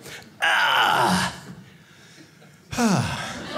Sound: groans; audience laughing; sighs

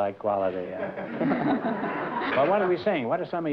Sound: laughter

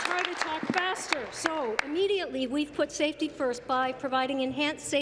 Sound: applause

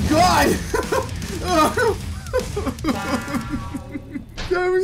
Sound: manic laughter; MANIC LAUGHTER... with some tears

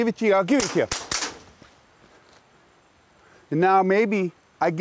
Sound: gunshots

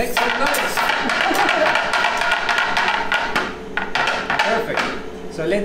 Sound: tapping mold on marble

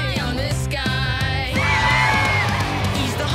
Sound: cheering

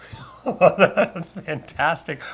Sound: laughs

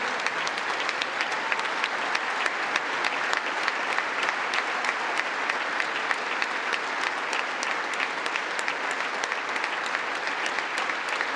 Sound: applause

